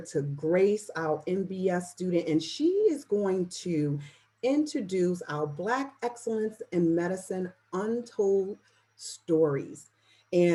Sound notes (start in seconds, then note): none